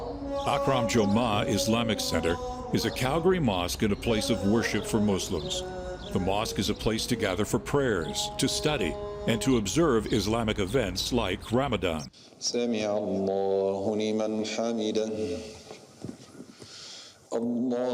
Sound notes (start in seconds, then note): 12.5 man saying payer in Arabic